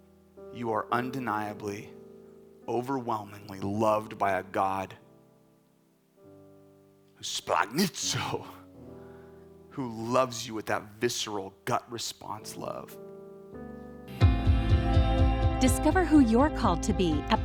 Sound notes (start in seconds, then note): 7.6 speaking in Greek